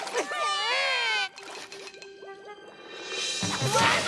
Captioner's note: shouts; screams